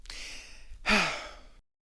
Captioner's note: inhale; sigh